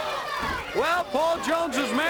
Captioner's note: crowd chatter